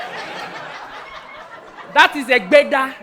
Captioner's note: audience laughing